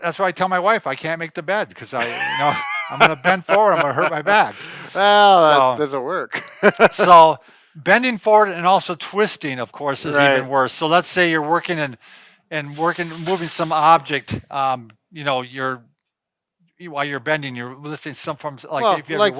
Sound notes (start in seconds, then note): 6.4 laughs